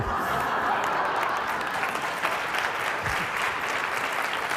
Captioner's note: applause